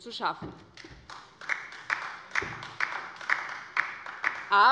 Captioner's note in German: Beifall bei der LINKEN